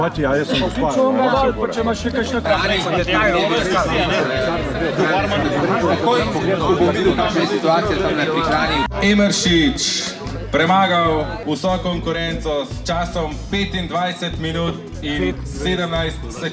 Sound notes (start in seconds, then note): 0.3 talking